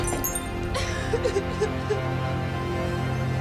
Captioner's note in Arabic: ينتحب